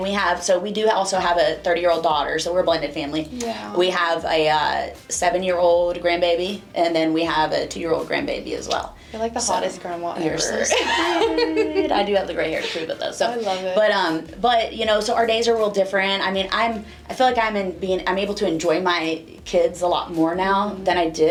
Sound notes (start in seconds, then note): 10.2 laughing